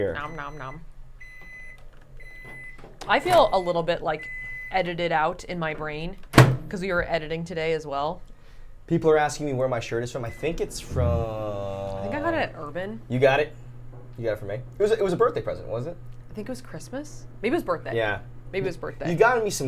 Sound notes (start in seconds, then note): 2.1 microwave beeps; 6.3 closes microwave